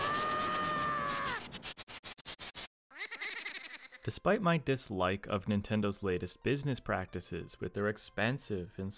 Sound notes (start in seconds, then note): 1.8 Lightning strike, Link screams; 2.9 Poe laugh